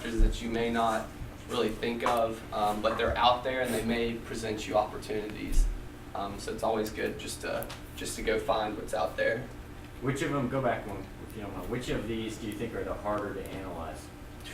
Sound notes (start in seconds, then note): 10.1 voiceover